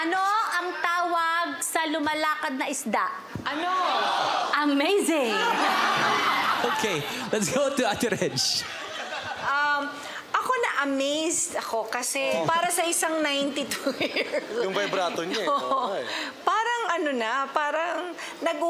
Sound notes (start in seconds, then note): 5.3 laughing; 5.4 chuckling; 13.7 laughing